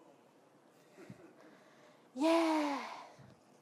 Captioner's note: audience laughing